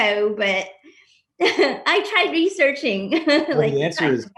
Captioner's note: laughs